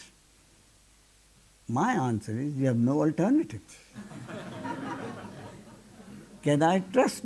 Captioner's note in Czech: smích